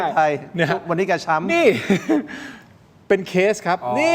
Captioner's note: laughs